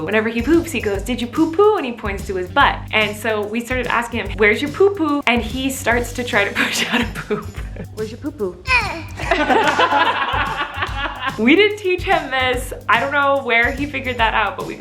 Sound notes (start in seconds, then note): 8.8 grunting; 9.0 people laughing